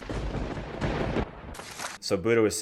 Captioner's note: thunder crackles